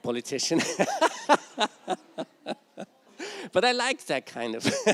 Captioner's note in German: Gelächter